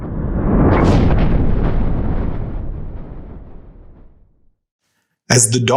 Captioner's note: thunder